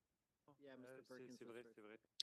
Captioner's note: speaking French